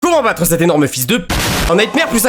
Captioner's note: explosion